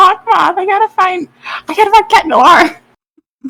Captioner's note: inhale